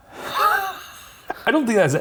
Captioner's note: laughing